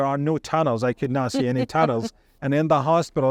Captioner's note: chuckles